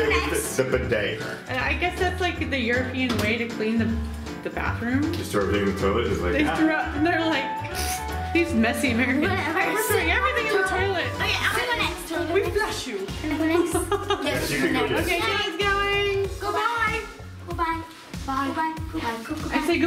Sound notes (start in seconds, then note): 13.5 laughs